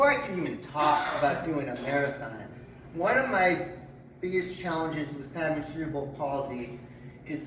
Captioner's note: coughs heard in background